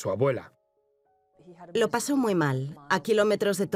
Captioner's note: voiceover